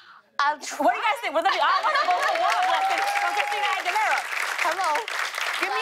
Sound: cheers and applause

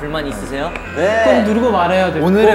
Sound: buzzer

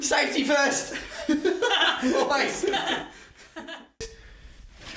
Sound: men laughing

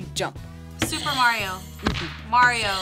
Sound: buzzer rings

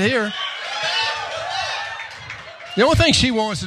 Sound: applause

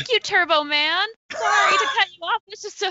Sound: laughing drowns out speaker

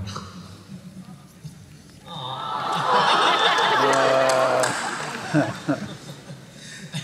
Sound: laughter

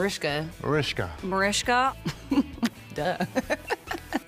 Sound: chuckles; laughs

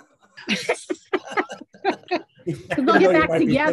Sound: group laughing

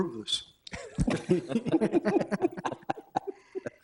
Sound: all laughing

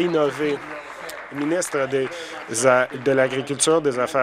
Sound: applause

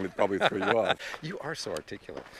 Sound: laughing

